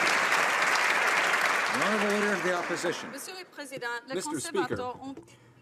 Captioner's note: some Applause